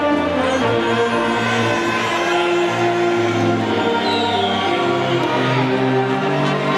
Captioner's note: audience faintly shouts and whistles